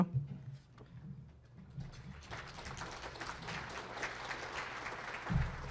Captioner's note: audience clapping